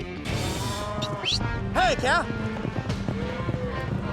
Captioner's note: whistling